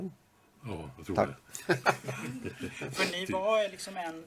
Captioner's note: laugh